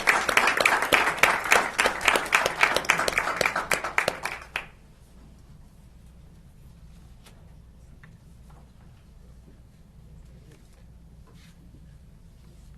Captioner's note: applause